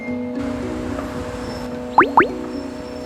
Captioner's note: notification